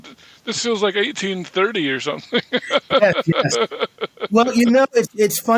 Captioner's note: chuckling